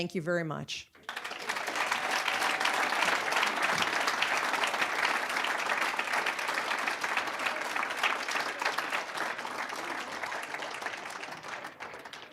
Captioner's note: applause